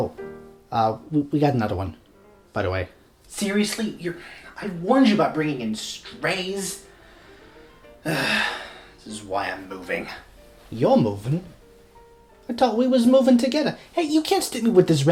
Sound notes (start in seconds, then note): 8.0 sigh